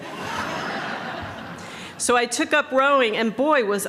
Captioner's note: laughter